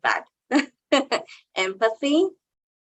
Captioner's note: chuckling